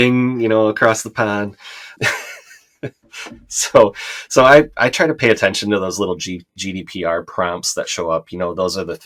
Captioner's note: laughter